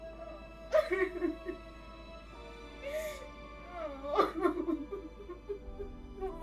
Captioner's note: dramatic music continues; Heather crying continues